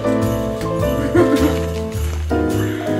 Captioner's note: chuckles; jolly, gentle, festive music